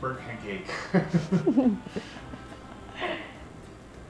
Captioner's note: laughs